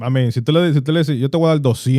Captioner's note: speaking In Foreign Language